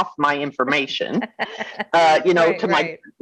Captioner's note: laughing